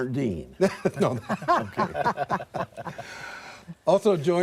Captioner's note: laughter